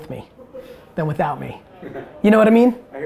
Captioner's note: giggles